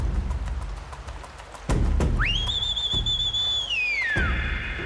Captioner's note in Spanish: Silbido